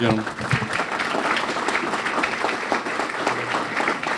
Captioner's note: clapping